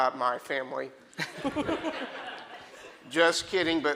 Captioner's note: audience laughing